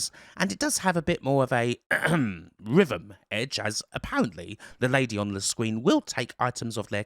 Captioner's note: ahem